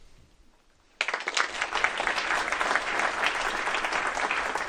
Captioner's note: applause